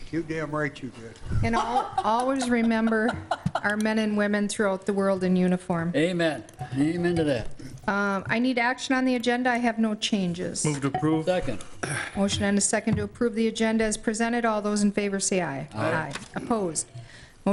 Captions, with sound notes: You're damn right, you did. (member laughing) And, always remember our men and women throughout the world in uniform. Amen, amen to that. I need action on the agenda, I have no changes. Move to approve. Second. Motion and a the second to approve the agenda as presented. All those in favor say aye. Aye. Opposed?